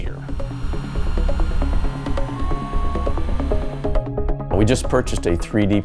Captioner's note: sound of 3D printer